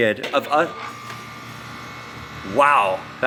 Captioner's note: device vibrating